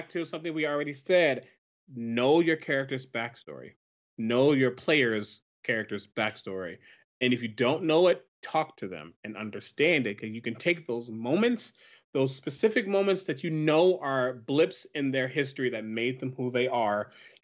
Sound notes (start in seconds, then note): none